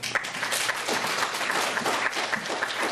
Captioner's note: applause